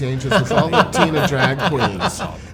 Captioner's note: laughing